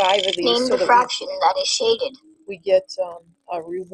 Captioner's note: voiceover